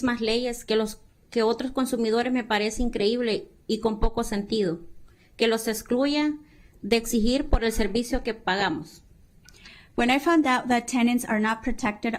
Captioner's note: speaking spanish